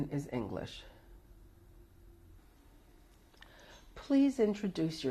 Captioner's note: pauses for 3 seconds